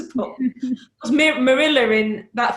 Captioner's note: laughs